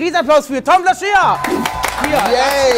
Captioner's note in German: Jubel, Applaus